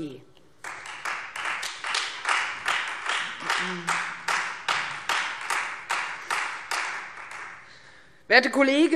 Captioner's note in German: Beifall